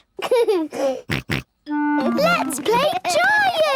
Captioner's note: giggles, snorts